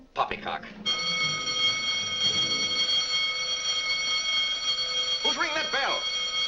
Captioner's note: alarm bell rings